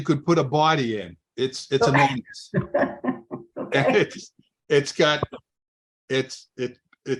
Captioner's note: laughs